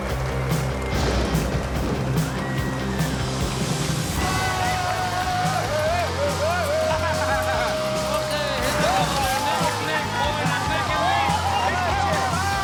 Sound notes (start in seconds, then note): 0.9 thunder; 4.1 screaming; 6.6 laughing; 8.2 cheering